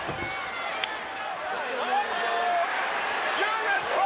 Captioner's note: hands slap